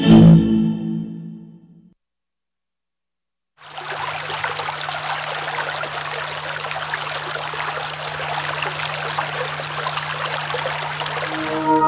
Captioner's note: babbling brook